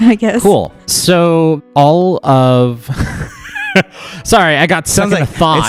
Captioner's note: laughs